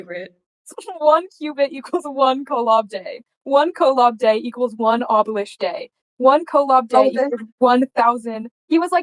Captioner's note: laughing